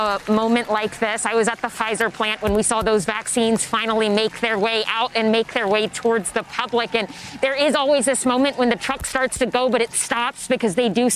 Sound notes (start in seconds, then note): 2.1 applause